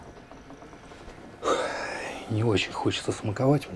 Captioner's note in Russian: шумно выдыхает